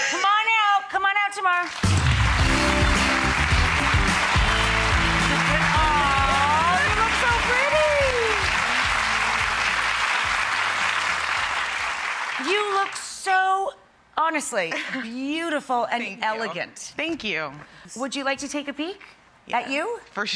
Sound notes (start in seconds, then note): 1.9 clapping; 1.9 upbeat music